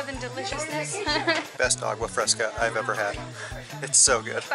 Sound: laughter

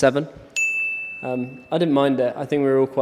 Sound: bell dings

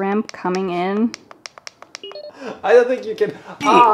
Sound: clicking; beeping; groans

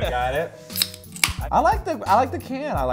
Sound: can top pops

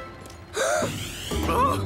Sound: gasps

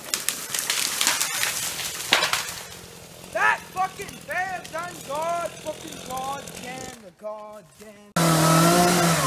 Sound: tree falls

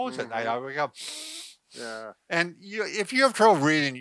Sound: sniffs

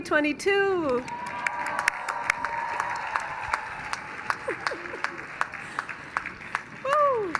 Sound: cheers

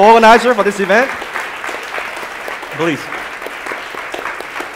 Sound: audience applauding

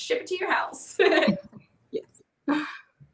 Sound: laughs

